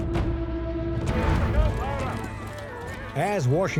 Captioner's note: men commanding